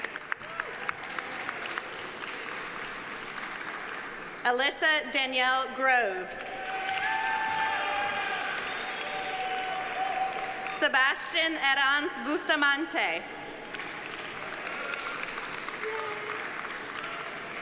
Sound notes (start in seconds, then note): 0.0 audience applauding; 0.4 audience cheering; 6.5 audience cheering; 6.5 audience applauding; 13.5 audience applauding